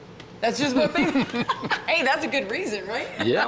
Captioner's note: laughter